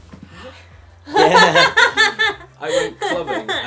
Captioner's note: gasps and laughter